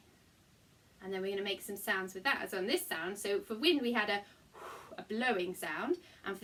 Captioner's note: blow